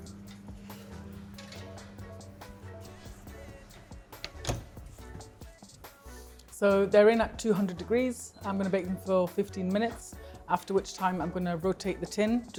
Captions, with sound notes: (tray taps) (oven door clicks) So they're in at 200 degrees. I'm gonna bake them for 15 minutes, after which time I'm gonna rotate the tin,